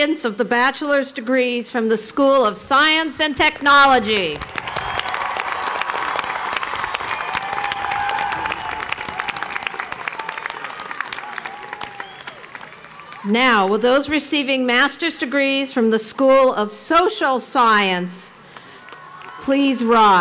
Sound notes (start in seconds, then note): 3.8 applause